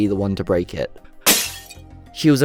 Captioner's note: smash